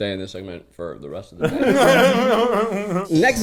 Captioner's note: laughing